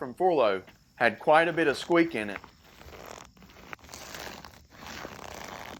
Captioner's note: squeaking fabric